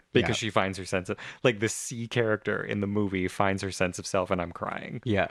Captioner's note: laugh; laugh